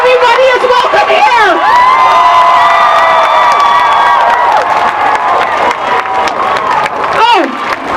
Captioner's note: cheering and applause